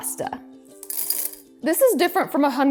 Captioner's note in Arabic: خشخشة المعكرونة